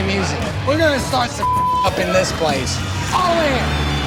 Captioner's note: beep